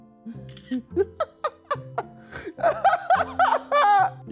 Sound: laughing

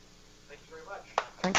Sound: applause

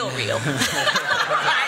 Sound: laughter

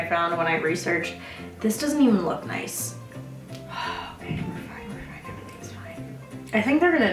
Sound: sigh

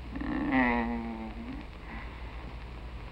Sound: moaning

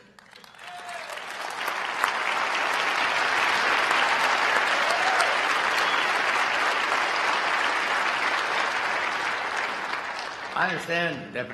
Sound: applause

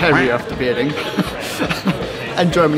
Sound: laughing

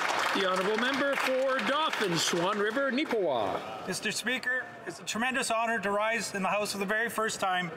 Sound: some Applause

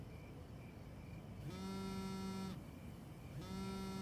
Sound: vibrating

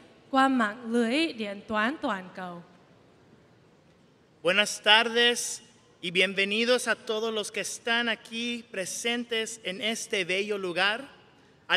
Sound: speaking vietnamese; speaking spanish

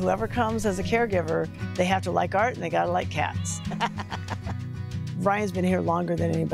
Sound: laughs

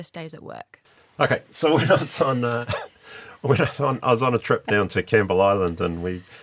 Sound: laughs

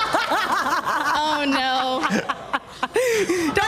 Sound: laughter

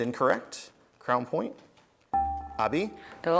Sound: buzzer beeps

